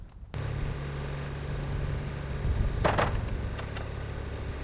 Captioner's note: engine rumbling